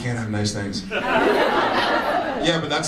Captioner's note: audience laughs